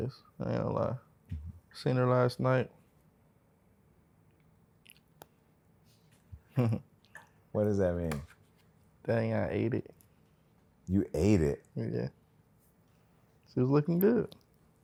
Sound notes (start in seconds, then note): 6.4 chuckles